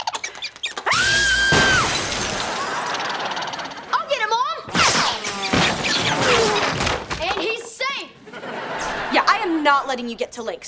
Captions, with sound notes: [screaming] [squirrel squeaking] I'll get it, mom! And he's safe! Yeah, I'm not letting you get to Link.